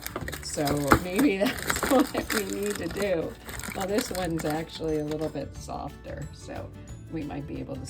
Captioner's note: chuckles